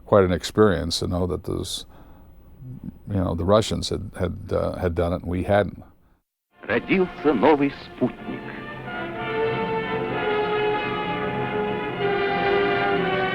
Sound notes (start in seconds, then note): 6.8 man speaking Russian; 9.4 sweeping orchestral music